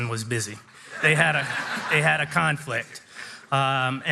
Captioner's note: audience laughing